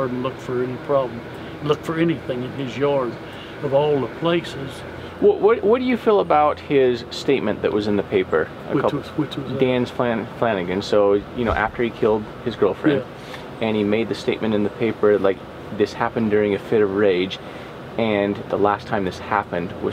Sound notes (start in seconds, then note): none